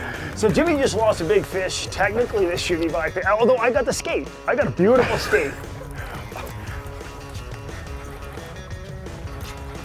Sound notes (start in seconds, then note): 4.7 laughs